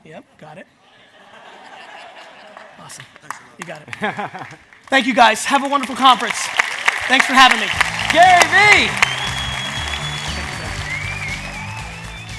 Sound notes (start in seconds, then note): 0.9 audience laughs; 4.0 audience member laughs; 6.4 audience cheers